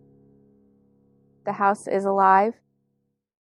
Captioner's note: voice over, female